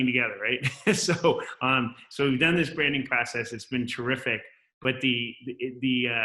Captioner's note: laugh